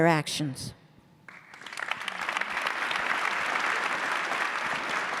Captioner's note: audience clapping